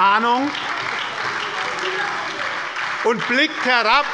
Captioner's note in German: Beifall bei der SPD und der LINKEN - Zurufe von der CDU